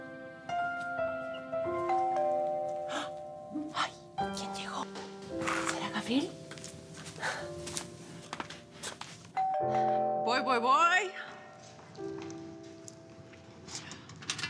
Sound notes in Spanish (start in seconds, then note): 2.0 Timbre de la puerta; 3.6 Susurra; 9.4 Timbre de la puerta